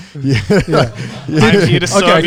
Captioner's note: speakers laughing